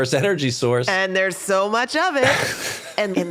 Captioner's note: laughs